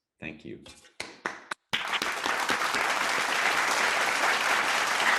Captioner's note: audience clapping